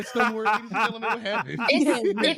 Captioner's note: laughing